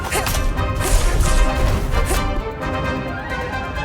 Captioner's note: grunting